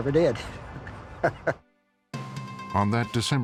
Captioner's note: laughs